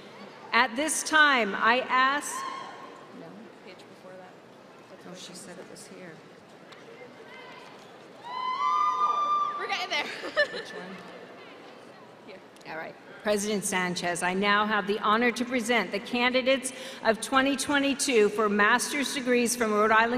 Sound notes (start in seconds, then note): 10.0 chuckles